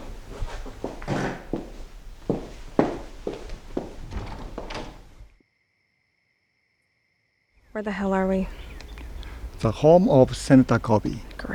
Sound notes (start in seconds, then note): 4.1 crickets chirping; 8.0 birds chirping